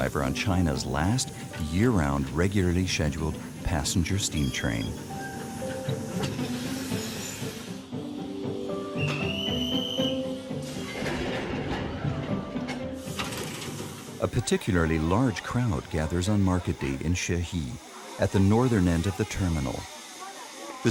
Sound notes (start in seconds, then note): 8.8 soft music; 8.9 whistle blowing